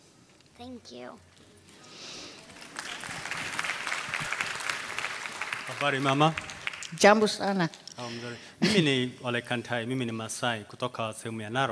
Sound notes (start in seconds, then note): 2.2 applause; 5.7 speaking swahili